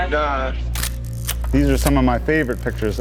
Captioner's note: camera snapping